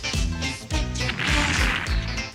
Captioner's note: explosion